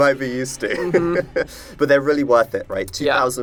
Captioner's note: laughs